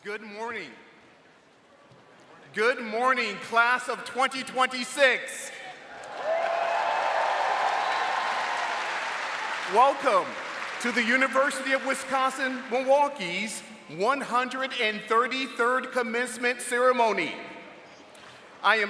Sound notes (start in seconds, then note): 5.8 audience cheering